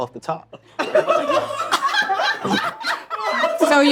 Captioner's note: all laughing